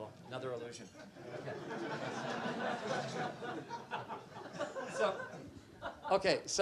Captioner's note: laughter